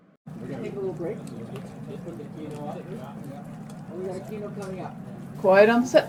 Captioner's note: TV crew chatter